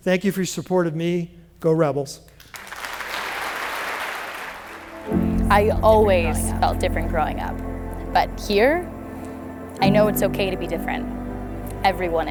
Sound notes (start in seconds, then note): 2.4 applause